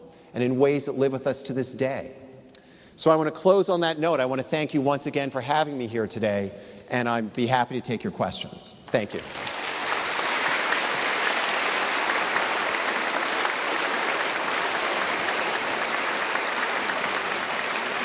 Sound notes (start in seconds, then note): 8.9 applause